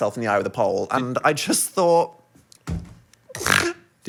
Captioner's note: snorts